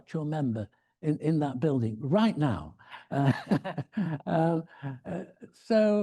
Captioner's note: laughs